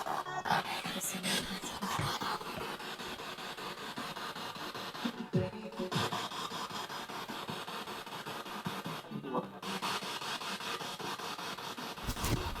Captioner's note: sound of the Spirit Box in the background